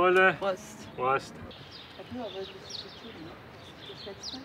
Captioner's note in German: Vogelzwitschern